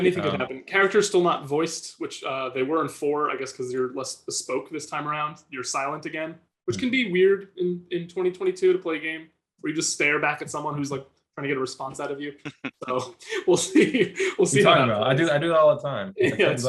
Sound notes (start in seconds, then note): 12.3 laughing